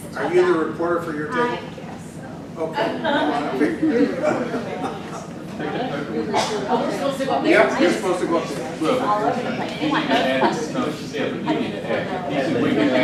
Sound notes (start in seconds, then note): 4.2 participants murmur